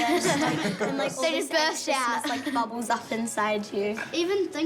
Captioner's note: laughs